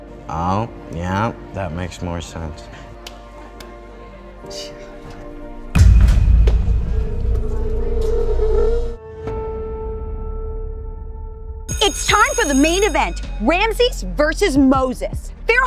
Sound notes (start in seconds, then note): 5.8 eerie whooshing; 5.8 ball thumping; 9.4 sustained piano note